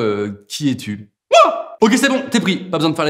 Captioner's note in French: fort accent ch'ti